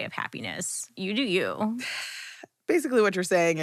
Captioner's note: scoffing